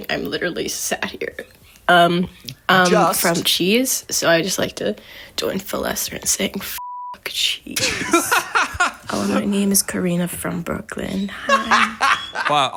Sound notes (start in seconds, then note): 6.8 beep; 7.8 laughs; 11.4 laughs